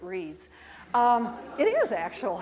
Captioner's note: crowd chuckles